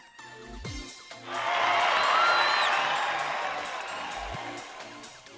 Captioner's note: crowd